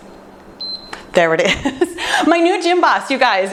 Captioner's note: timer beeps